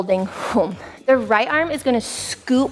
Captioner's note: hmph